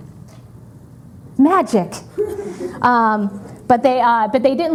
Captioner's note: audience chuckling